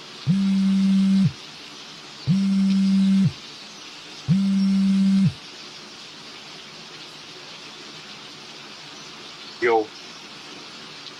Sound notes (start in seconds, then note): 0.0 rain; 0.2 phone buzzing; 6.3 rain